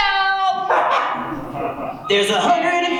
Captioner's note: audience laughs